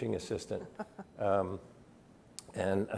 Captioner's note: chuckles